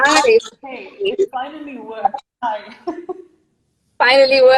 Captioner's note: laughing